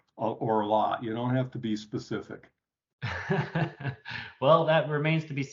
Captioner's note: laughs